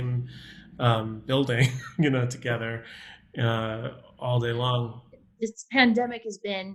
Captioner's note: laughs